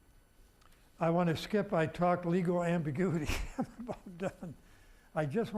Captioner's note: laughing